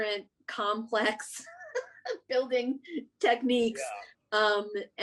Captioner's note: laughs